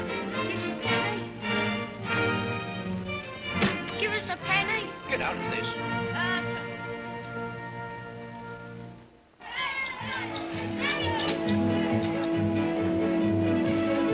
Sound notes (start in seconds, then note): 9.4 children's voices; 9.6 whimsical music